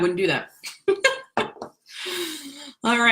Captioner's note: laughs